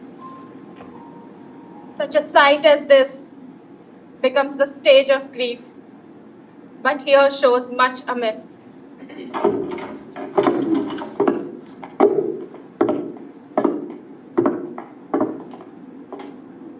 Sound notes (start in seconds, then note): 9.4 heavy footsteps